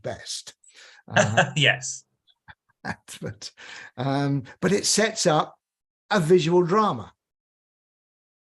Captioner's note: laughter